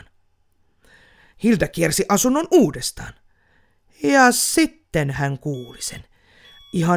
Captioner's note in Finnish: piippaus